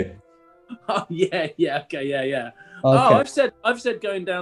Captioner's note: laughing